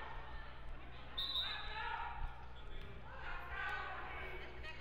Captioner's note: whistle blows